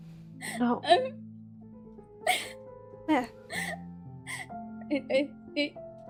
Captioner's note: DAMIEN sobs; crying